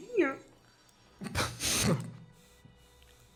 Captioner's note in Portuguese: risos